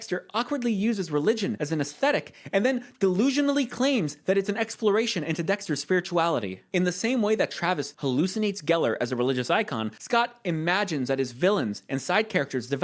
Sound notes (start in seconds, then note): none